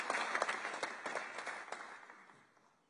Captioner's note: applause